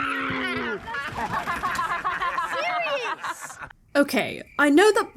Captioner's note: laugh